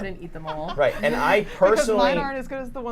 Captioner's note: laughs